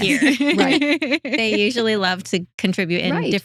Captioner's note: both Laughing